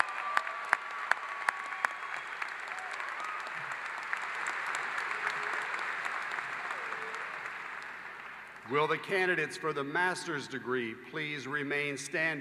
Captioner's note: applause